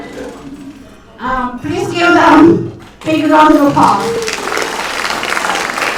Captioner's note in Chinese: 掌声